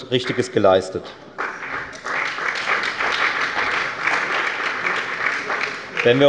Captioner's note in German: Beifall bei der FDP und bei Abgeordneten der CDU und der SPD